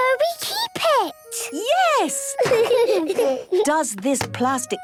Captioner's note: laughter